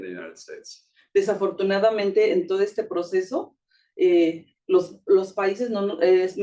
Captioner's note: speaking Spanish